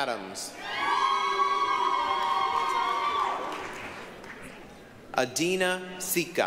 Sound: applause, cheering

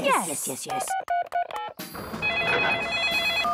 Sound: phone beeping; phone ringing

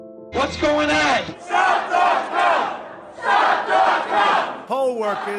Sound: chant

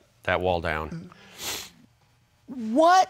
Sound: sniffs

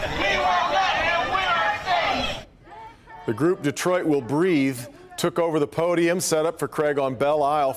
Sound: chanting

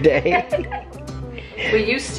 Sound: laughing

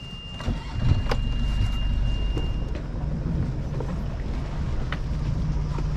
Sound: beeping; motor revving

